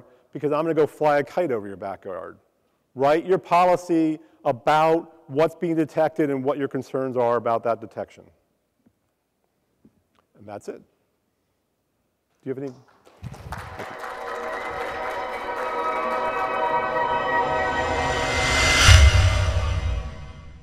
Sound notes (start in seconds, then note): 12.6 light applause; 14.0 quick shimmering